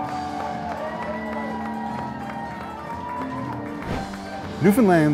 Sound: people cheering

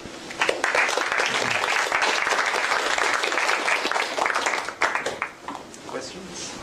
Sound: applause

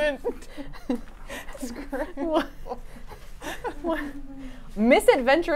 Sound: laugh

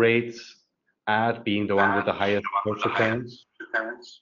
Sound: video echoes

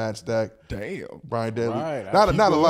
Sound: group talking

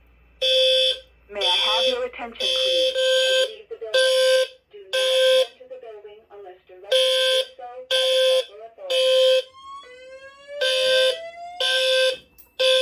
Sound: voice Message

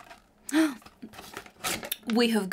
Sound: gasps

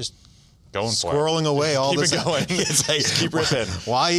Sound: laughs

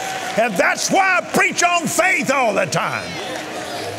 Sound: audience cheering

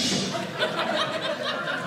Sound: audience laughing

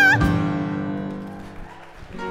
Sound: applause

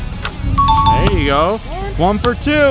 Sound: ding

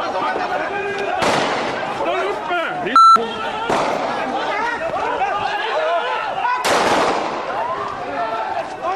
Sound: gunshots, Police personnel shouting </i> <i>and using abusive language

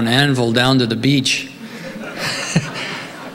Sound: laughs

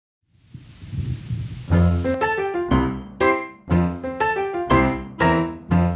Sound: thunder rumbles

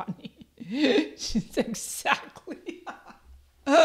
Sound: laughs

